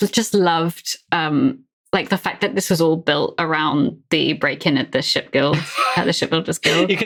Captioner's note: sighs